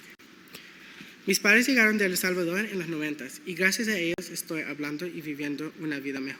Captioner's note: speaking in foreign language